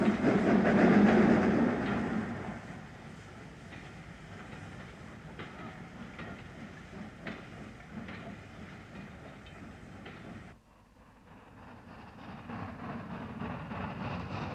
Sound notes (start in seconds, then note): 2.3 train passes